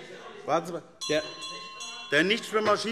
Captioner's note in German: Weitere Zurufe - Glockenzeichen